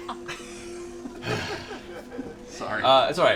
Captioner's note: sighs